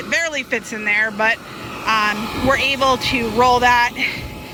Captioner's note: none